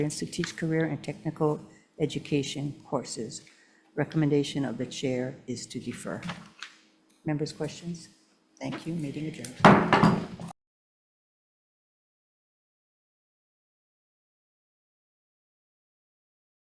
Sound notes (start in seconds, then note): 9.6 gavel bangs